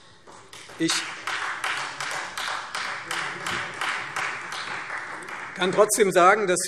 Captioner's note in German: Beifall Freie Demokraten